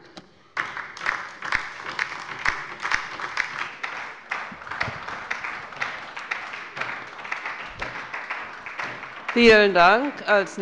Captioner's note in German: Beifall bei der LINKEN und der SPD